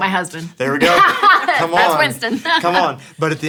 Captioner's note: laughs